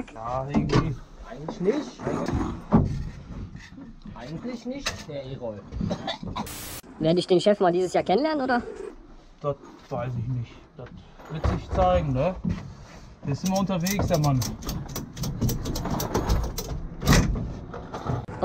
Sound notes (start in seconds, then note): 5.8 cough; 13.5 clattering